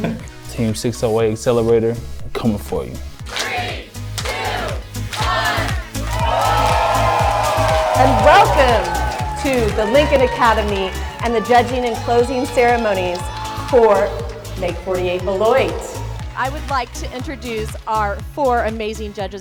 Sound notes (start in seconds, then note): 5.8 crowd cheering